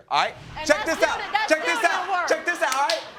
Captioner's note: audience laughs